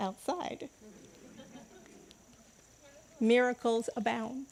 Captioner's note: congregants laughing